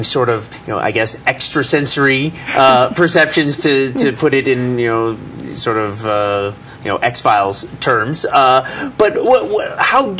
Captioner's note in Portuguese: risos